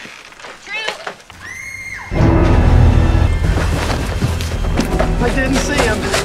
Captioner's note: screams